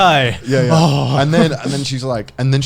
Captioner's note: foreign language